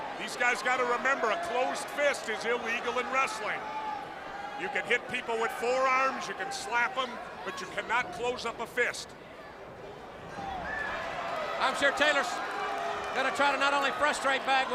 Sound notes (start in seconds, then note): 10.2 crowd cheering